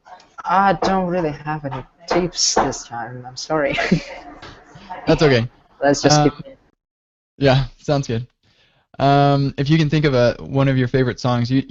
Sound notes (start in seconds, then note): 3.6 chuckles